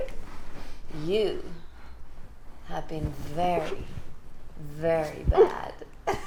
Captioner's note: laughs maniacally